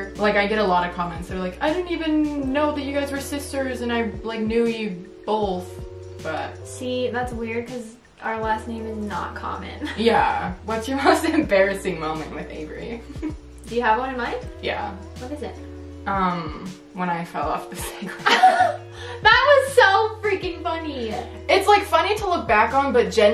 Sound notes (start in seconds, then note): 18.0 both laugh